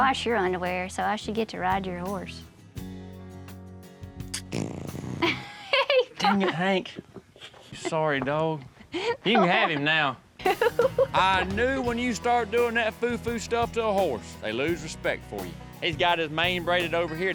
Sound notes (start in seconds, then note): 4.3 horse passes gas, laughs; 10.4 laughs